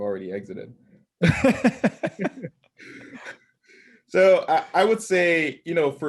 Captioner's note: laugh